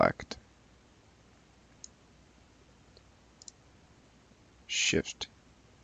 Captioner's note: mouse clicking